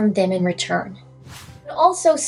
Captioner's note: swoosh